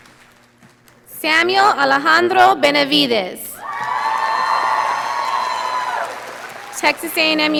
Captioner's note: audience applauding